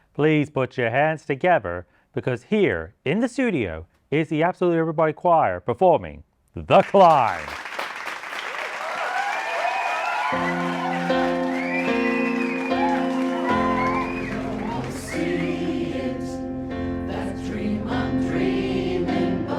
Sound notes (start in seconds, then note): 6.7 applause; 8.0 cheering